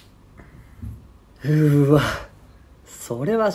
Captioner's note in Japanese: ため息交じり